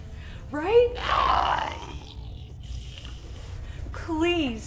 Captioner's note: Giree growls